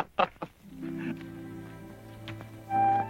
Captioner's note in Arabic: يضحك